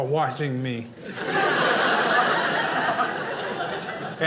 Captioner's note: audience laughing